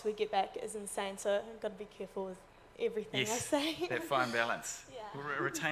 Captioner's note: laughs